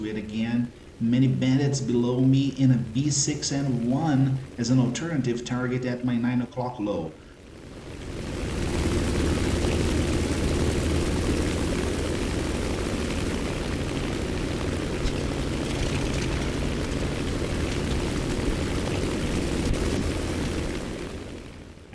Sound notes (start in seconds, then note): 7.1 aircraft Engines ,Gunfire, Flying Sounds